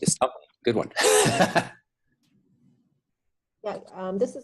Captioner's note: laughs